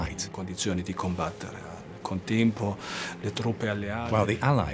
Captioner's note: speaks in foreign language